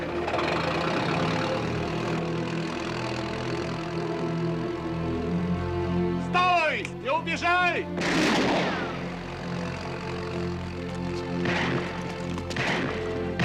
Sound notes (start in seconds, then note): 6.3 gunshot; 6.3 speaking Russian; 11.3 gunshots continue